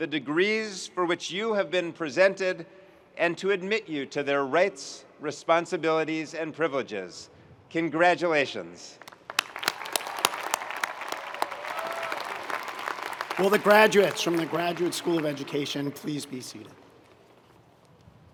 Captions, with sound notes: the degrees for which you have been presented, and to admit you to their rights, responsibilities, and privileges. Congratulations. (audience cheering and applauding) - Will the graduates from the Graduate School of Education please be seated,